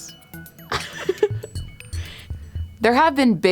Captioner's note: laughs